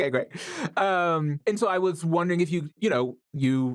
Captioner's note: none